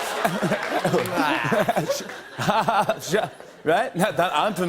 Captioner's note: laughter; laughs awkwardly